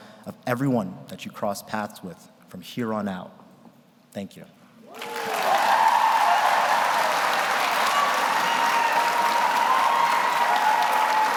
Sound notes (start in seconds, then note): 4.9 audience applauds; 4.9 audience cheers